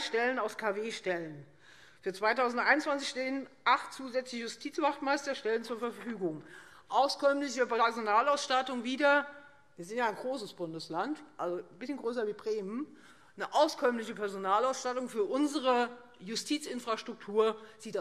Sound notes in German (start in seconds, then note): none